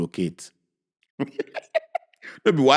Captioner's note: chuckles